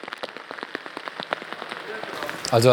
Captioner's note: rain pattering